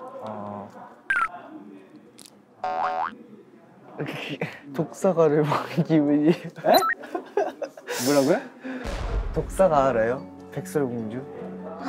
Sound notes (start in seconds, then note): 1.3 hesitant